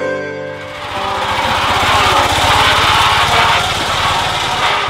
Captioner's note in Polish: dźwięk jadącego samochodu